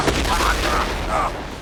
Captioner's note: grunt